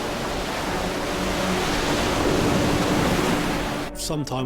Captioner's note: waves crash